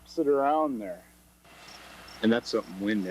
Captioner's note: tractor engine rumbling